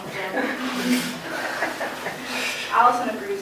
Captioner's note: laughter